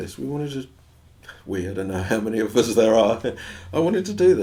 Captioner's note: laughs